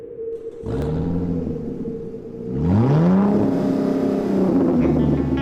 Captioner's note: car engine